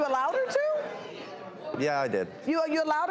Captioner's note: audience chattering